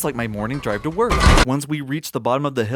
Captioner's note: bump